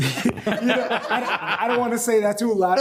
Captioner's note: all laughing